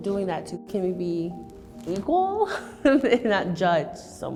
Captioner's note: laughs